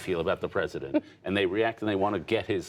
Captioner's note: laughter